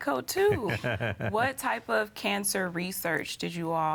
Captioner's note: laughs